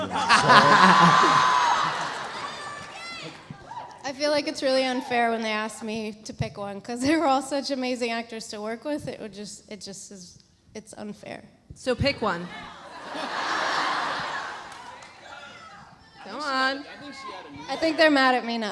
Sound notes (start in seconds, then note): 0.0 Matt laughs; 12.4 audience laughs; 13.2 audience members yelling